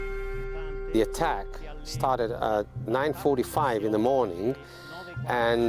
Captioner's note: voiceover